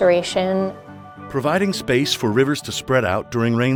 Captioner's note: voiceover